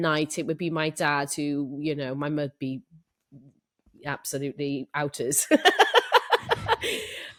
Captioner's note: laughs